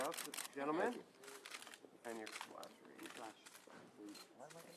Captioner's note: camera clicks